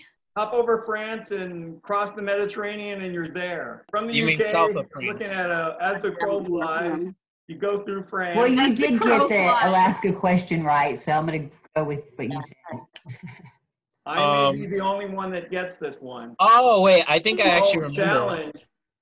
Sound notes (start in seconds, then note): 13.1 laughter